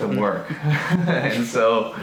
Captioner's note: laughing